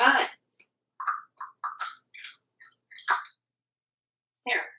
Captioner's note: chewing sounds